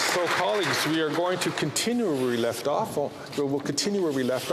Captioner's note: applause